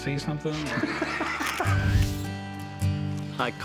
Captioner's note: laughs